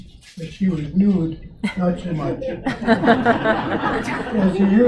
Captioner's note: audience Laughter